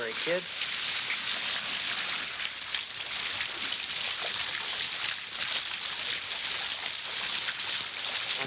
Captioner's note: water running